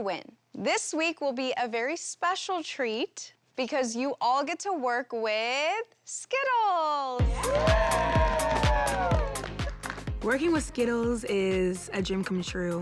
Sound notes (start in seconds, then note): 7.2 cheering